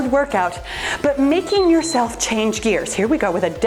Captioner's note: timer beeps